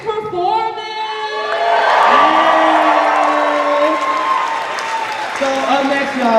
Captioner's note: cheers